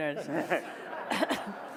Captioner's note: audience laughs